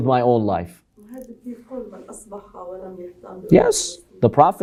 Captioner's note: Arabic